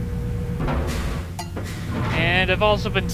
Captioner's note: clank